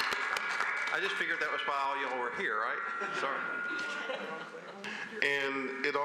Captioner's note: applause